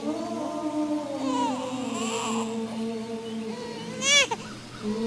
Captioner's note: baby crying